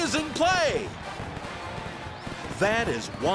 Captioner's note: marching band fanfare; fireworks exploding